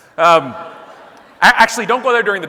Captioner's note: audience laughing